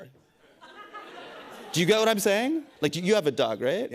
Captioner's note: laughter